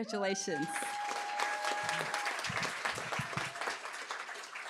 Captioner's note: cheering, applause